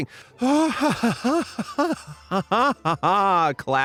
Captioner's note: laughs sarcastically